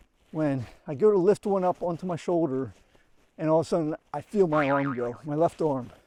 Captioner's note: boing